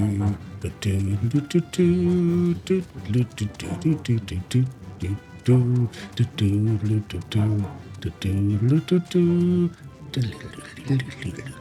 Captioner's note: humming